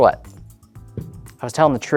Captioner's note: cup thuds